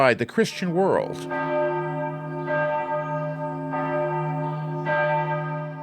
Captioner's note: church bells